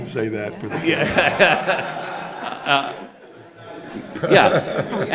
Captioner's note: audience laughing